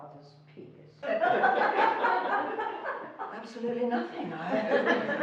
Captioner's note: laughing